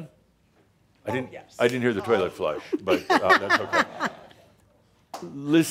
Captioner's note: some chuckles